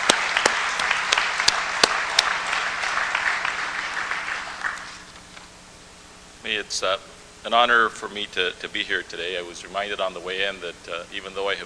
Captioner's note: applause